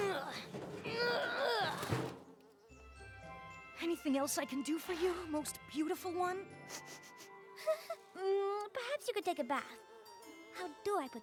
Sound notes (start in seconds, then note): 0.0 grunting; 6.6 sniffs, whimpers